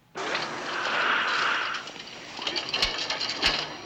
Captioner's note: clanking